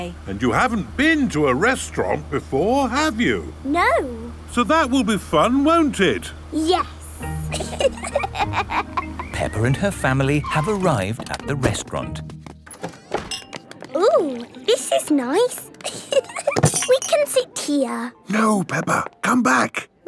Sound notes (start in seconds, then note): 7.4 both laughing; 12.8 lounge music